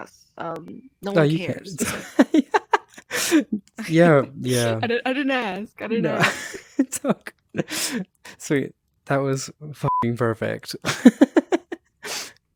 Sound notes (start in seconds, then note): 1.6 chuckles heartily ha ha ha; 10.8 hehehehehehehehe